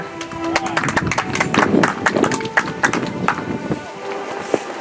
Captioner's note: audience applauds; soft music